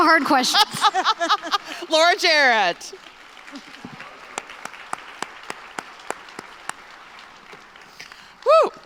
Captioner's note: applause